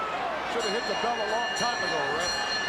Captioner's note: bell rings